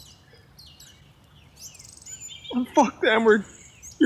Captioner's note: birds cawing